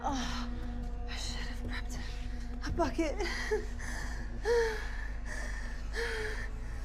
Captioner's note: panting